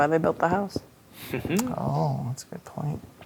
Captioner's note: chuckles